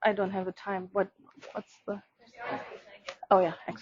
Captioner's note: audience members answering